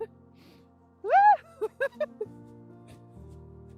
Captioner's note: laughter